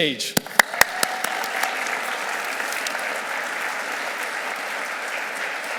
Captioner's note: audience clapping and cheering